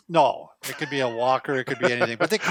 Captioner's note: laughs